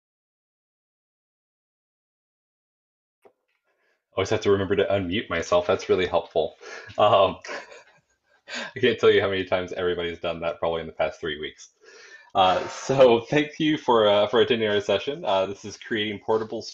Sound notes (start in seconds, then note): 6.7 laughter